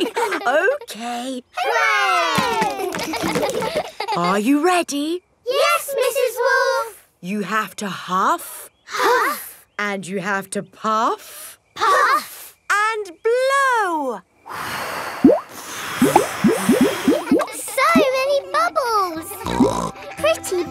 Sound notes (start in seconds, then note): 2.6 chuckles; 3.2 kids laughing; 14.5 all blowing; 19.4 snorts